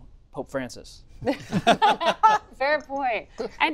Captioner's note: laughter